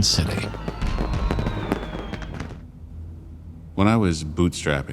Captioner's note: fireworks booming